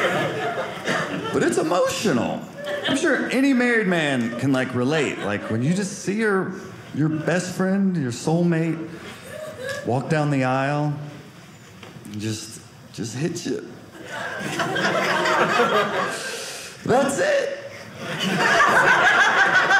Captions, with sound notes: But it's emotional. I'm sure any married man can relate. Like when you just see her, your best friend, your soul mate walk down the aisle, it just hits you. (audience laughing) That's it. (audience laughing)